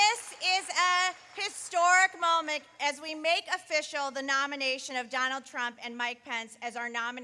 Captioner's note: applause